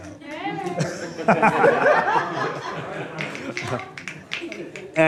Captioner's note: laughter